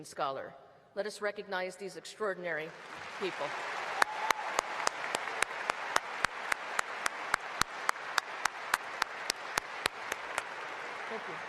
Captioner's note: applause